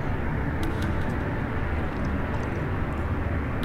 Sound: sip

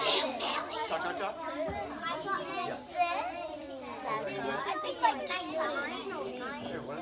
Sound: children talking to each other

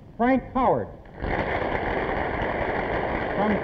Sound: applause

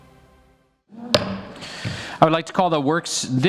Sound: gavel strikes

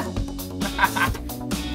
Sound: laughs

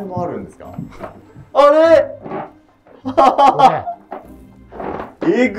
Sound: laughing

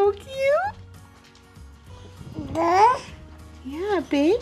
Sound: baby babble

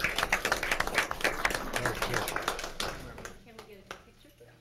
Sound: applauding

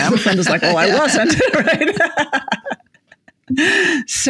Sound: laughs

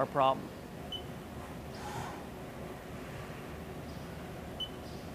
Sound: machine beeping

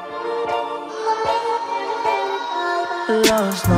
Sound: ahhhhh

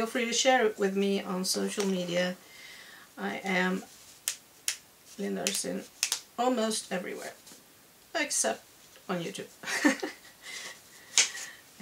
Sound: chuckle

